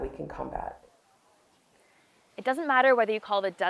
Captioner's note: waves crashing